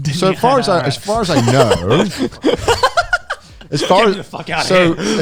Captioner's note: everyone laughs